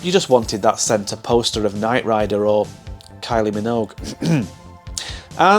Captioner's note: ahem